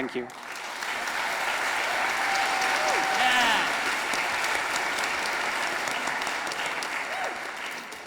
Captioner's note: audience applauding